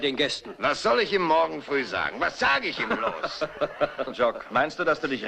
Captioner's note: laughs